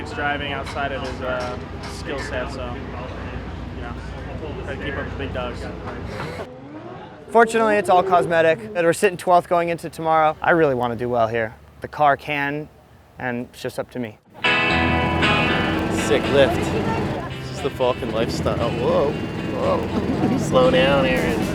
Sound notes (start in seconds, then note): 7.2 laughing; 14.3 guitar music